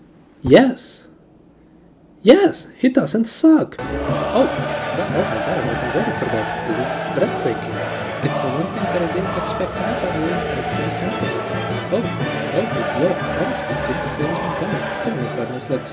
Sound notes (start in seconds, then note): 6.4 excited inelegant blubbering